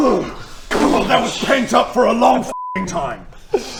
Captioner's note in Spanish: boom